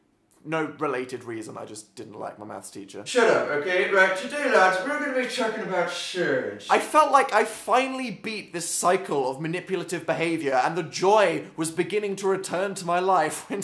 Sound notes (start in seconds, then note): 3.0 with an Irish accent; 6.7 normal voice